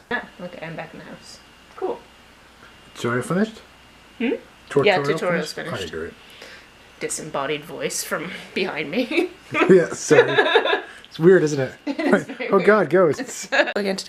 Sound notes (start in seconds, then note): 9.5 laughs; 13.4 laughter